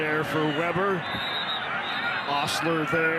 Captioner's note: referee blows whistle